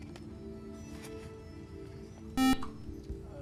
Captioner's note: buzzer